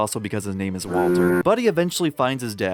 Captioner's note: foghorn